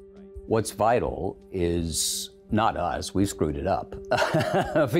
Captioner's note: laughing